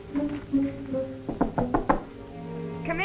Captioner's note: door knocks